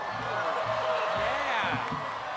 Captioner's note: applause